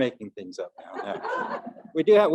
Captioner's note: audience giggling lightly